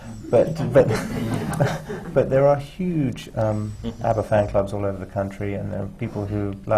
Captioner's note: laughter